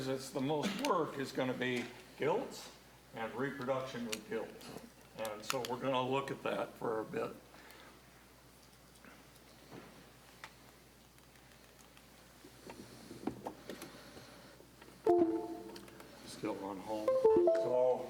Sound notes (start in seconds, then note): 15.0 computer notification chimes; 17.1 computer notification chiming